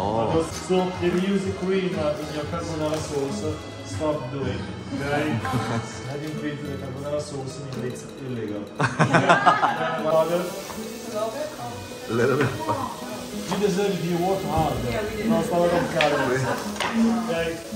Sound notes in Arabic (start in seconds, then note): 8.8 هاها